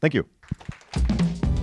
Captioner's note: applause